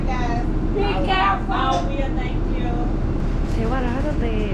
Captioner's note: Chicago people talking very loudly